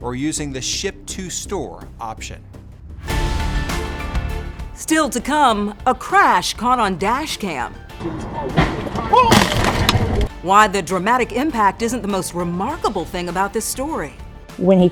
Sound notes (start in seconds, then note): 3.2 dramatic music; 9.3 car crunching